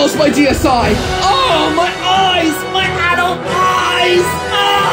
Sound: pained groan; scream of agony

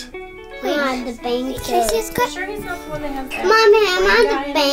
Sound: children talking

